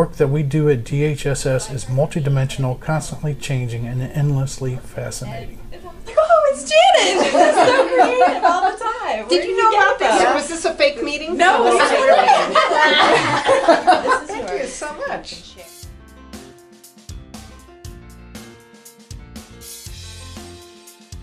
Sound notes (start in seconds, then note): 11.6 laughter